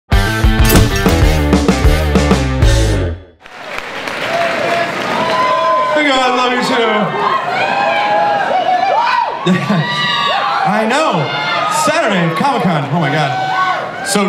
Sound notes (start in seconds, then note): 0.1 rock music; 3.4 audience cheering